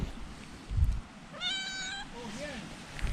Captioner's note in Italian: miagolio